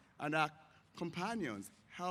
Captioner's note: none